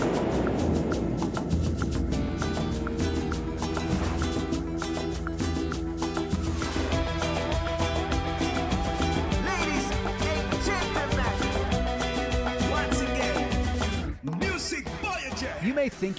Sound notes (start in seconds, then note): 0.3 Latin music; 10.0 voiceover